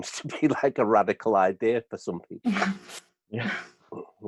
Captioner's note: laughs